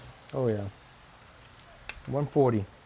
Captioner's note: sizzling